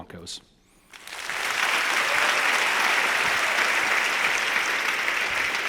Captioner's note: audience applauding